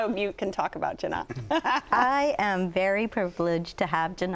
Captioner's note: laughter